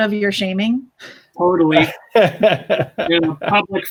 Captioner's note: laughs